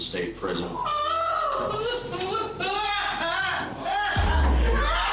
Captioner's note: woman crying loudly/uncontrollably